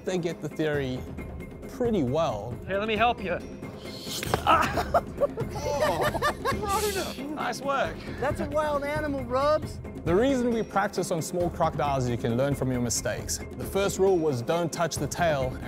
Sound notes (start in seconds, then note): 4.2 laughter